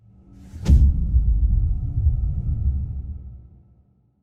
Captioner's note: dramatic sound